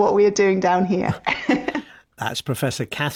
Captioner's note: laughs